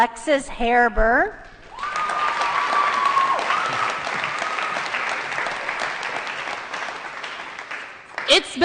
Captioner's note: applause & Cheering